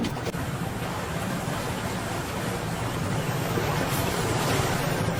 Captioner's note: waves splashing